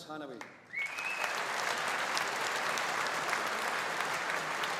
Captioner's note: audience applauding